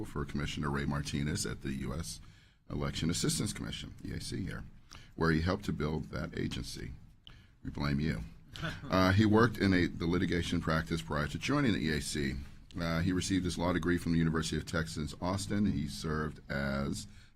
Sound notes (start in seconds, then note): 8.6 laughter